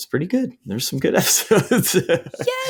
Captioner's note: laughing